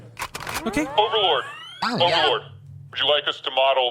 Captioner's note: SFX: A CLINT racks his gun